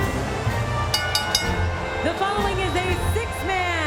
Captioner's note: bell rings